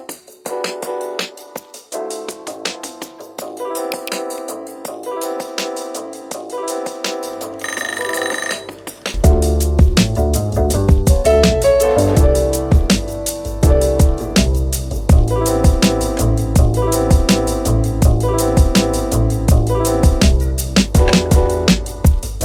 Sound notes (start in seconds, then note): 7.6 timer goes off